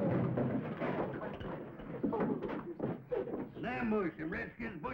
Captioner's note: wood clattering